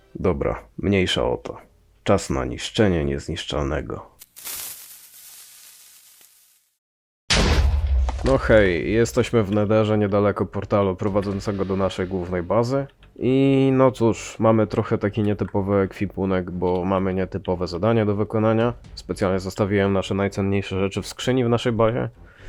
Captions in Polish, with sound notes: Dobra mniejsza o to czas na niszczenie niezniszczalnego! *syk odpalonego TNT* *eksplozja* No hej jesteśmy w Netherze niedaleko portalu prowadzącego do naszej głównej bazy I no cóż... Mamy trochę taki nietypowy ekwipunek bo mamy nietypowe zadanie do wykonania Specjalnie zostawiłem nasze najcenniejsze rzeczy w skrzyni w naszej bazie